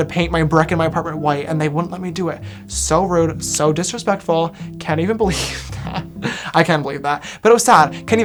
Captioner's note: laughs